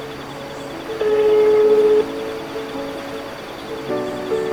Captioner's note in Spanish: Música dulce de piano; Ring de teléfono; Música dulce de piano